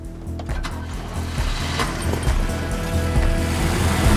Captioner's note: car engine starts; car door closes; car engine revving